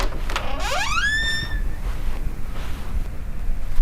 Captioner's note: door opens